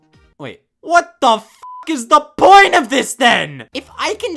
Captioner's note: beeps